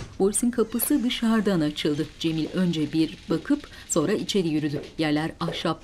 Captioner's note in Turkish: Kapı açılma sesi; Kapı gıcırtısı